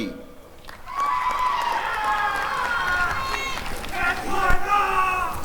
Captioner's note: applause and cheering